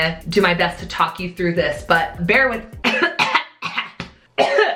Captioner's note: coughing